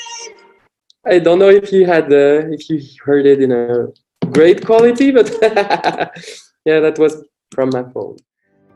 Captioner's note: laughing